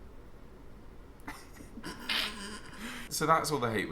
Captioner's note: laughing